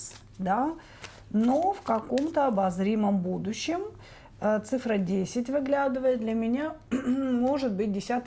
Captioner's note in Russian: откашливается